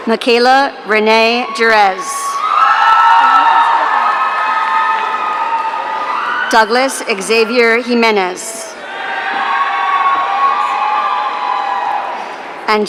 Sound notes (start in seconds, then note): 1.2 audience cheering